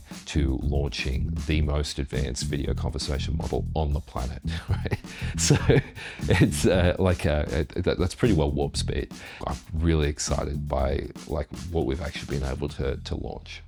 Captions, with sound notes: to launching the most advanced video conversation model on the planet. (laughs) So it's like, that's pretty well warp speed. I'm really excited by like what we've actually been able to launch.